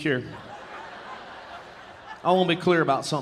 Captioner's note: audience laughing